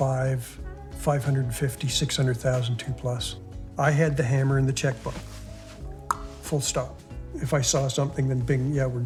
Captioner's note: click